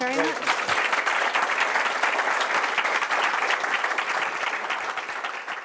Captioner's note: applause